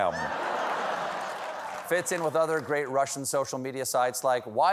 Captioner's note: laughter